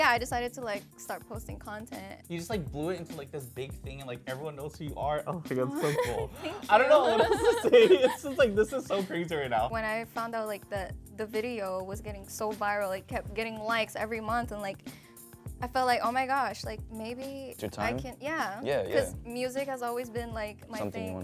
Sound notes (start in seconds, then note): 5.7 laughs